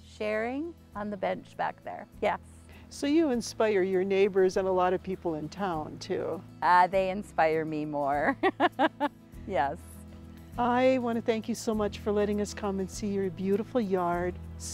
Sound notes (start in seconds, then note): 8.4 laughs